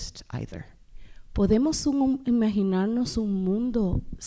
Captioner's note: speaking spanish